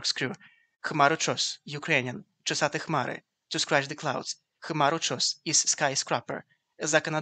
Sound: Ukrainian

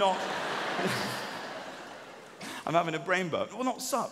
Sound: audience laughing

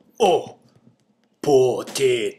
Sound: silence

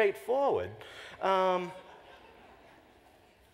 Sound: laughter

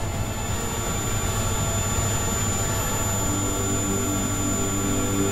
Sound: high pitch whirring

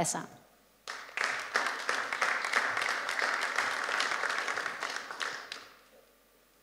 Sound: applause

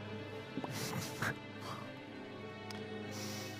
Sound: laughs

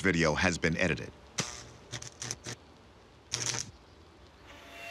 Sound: crackling

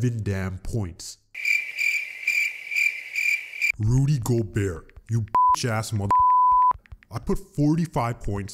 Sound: crickets

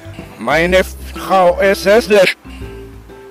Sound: reverse speaking

